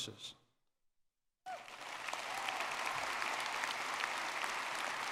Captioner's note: audience clapping